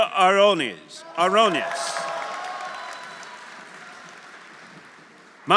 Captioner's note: audience cheering; audience applauding